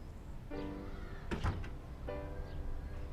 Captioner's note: door closing; downtempo piano